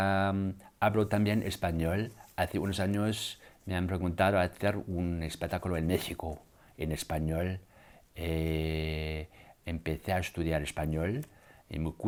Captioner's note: speaks german; speaks spanish